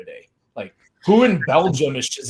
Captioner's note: laughing